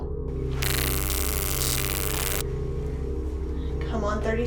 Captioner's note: taser zapping